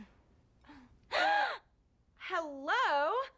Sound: gasps

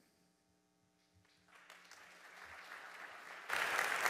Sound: audience applauding

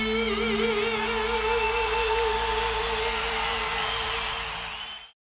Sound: audience cheering and whistling

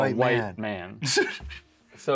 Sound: chuckles

